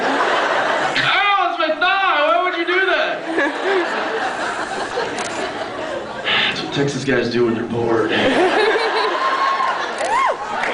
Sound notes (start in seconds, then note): 0.2 laughs; 3.2 laughs; 6.2 sighs; 8.1 laughs